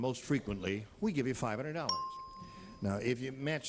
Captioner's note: bell rings